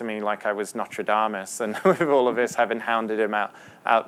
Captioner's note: laughs